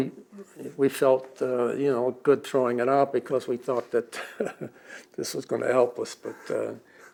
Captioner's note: laughs